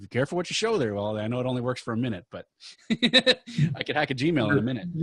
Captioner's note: laughing